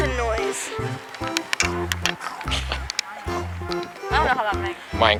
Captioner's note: Minecraft noises